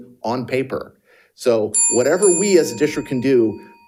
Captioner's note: bell dinging